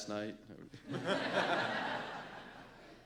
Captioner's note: laughter